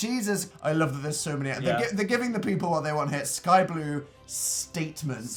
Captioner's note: sassy